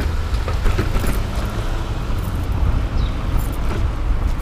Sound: car engine roaring

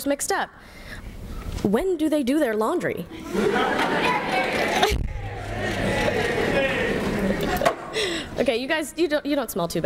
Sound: peals of laughter with here here and shame shame

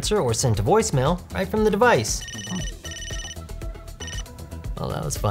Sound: phone rings

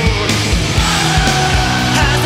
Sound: crowd

